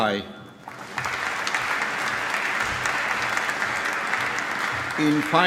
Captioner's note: applause